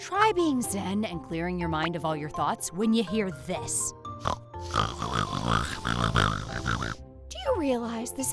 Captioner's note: snort snort snorrrt!